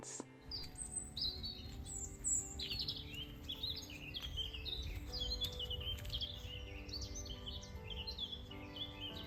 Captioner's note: birdsong